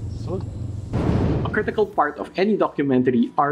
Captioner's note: whooshing